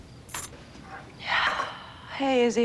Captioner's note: exhales